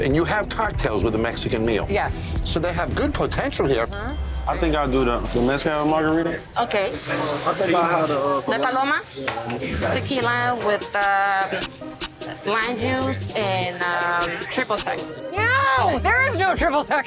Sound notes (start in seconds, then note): 3.8 bell dinging